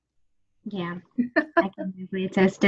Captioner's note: laughs